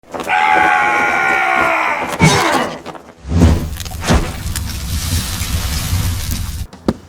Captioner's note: warrior screaming; fire burning